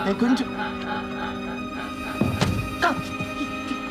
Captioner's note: laughter